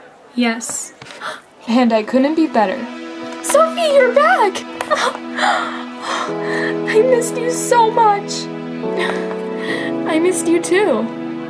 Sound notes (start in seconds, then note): 1.2 gasps; 9.0 laughs